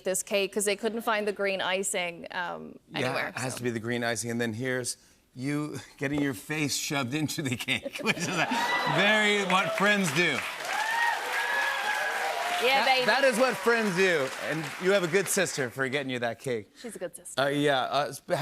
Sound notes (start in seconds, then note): 10.6 cheers and applause